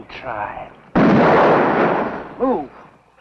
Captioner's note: gunshot